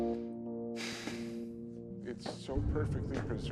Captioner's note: Kenny sighs